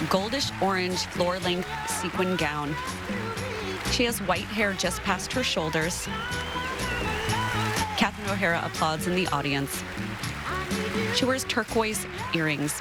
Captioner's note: applause